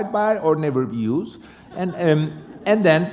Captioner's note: laughter